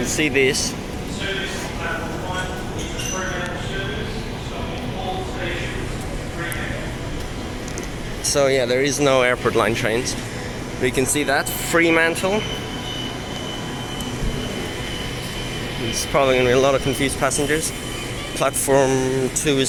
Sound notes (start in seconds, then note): 15.7 train